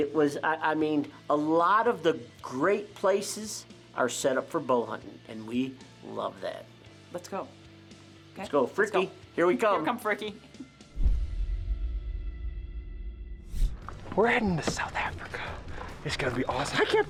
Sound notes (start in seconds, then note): 10.5 upbeat rock music; 13.7 dramatic whooshing